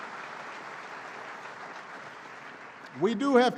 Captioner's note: applause